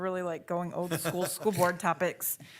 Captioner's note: laughs